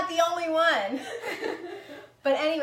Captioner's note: laughing